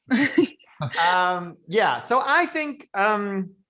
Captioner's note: laughter